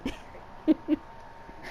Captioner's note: laughs